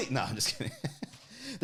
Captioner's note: laughs